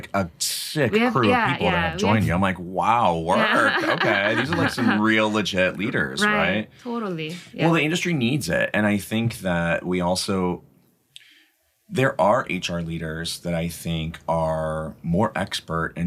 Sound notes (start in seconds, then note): 3.0 laughs